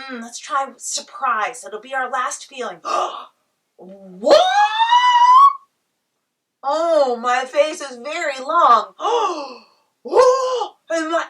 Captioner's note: gasp. Squeal